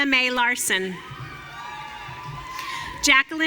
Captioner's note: audience cheering